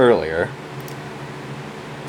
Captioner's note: mouse click